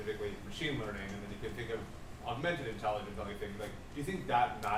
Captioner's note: speaking off mic